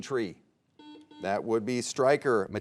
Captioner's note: buzzer beeping